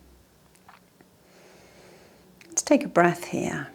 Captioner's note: inhales deeply